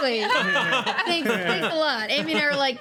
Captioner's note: laughing